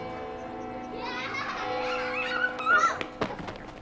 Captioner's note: children laughing and shouting